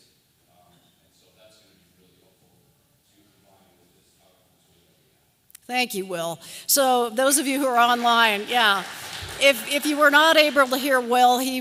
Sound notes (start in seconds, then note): 7.2 applause